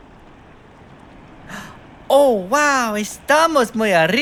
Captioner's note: gasp